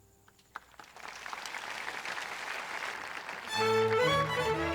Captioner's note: audience applauds